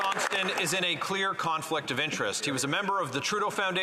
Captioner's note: applause